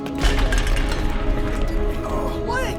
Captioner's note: clattering